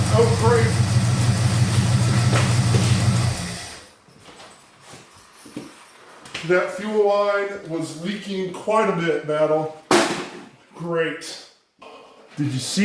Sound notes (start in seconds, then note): 0.0 engines idles & stops